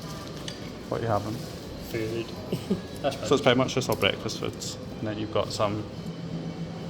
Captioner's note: laughs